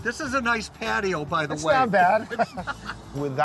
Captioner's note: laughs